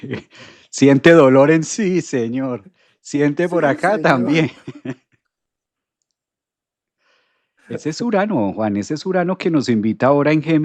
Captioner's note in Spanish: risas; risas